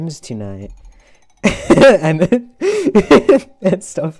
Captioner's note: laughs